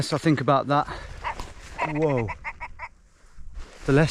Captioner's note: bird calling